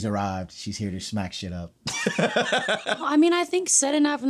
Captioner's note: laughs